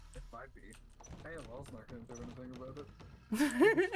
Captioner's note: laughs